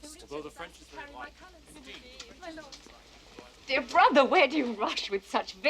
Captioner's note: people chatting